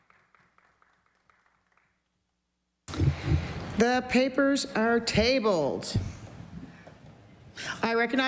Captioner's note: applause